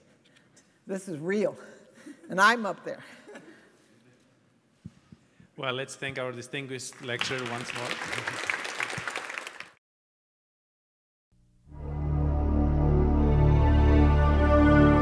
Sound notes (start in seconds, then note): 8.7 applause; 11.7 exciting music